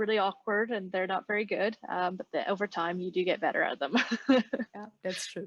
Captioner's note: laughs